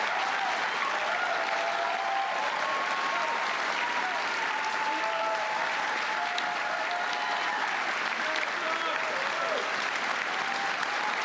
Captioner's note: cheers and applause